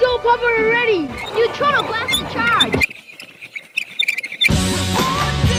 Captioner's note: squeaky noises